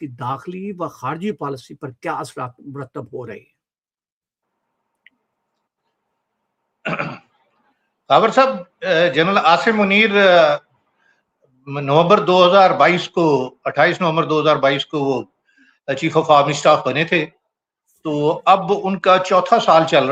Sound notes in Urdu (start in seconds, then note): 6.8 کھانسی; 6.8 گلا صاف کرتا ہے